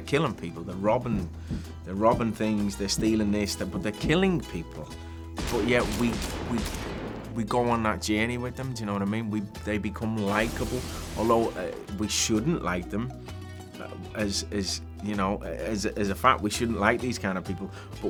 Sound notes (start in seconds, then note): 5.4 gun shots; 10.2 car explodes